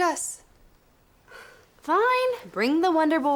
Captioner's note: sighs